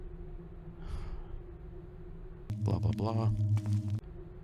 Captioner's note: sigh